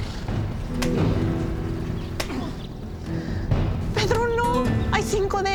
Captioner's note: tense music; punching; guadalupe speaking spanish